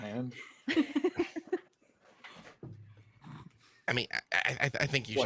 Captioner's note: group laughs